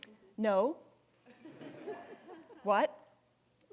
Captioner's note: students laughing